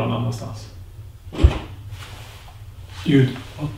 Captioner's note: bang from the kitchen